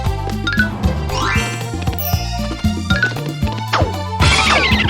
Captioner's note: new sound effect, PS1, PC, Jaguar, or Japanese demo